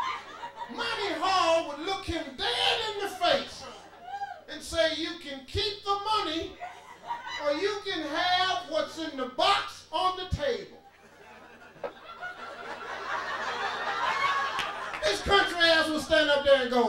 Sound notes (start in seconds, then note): 10.9 audience laughing